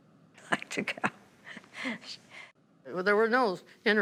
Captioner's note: laughing